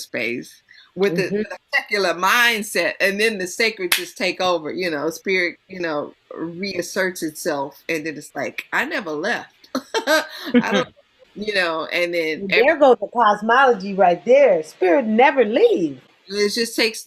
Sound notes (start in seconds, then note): 3.9 claps once; 9.8 laughs